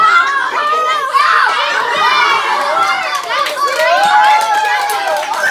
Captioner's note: cheering and laughter